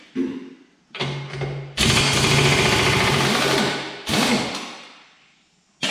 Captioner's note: impact wrench banging and whirring